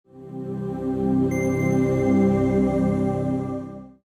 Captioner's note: chime